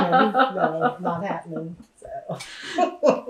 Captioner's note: laughter